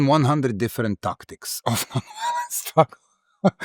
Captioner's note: laugh